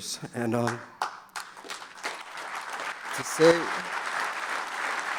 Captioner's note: audience applauding